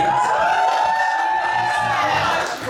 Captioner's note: guests cheering